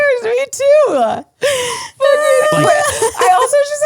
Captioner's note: laugh